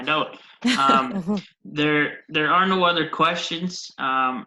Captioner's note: ladies laughing